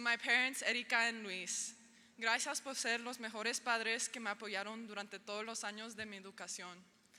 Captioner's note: speaking in foreign language